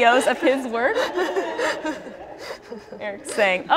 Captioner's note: laughter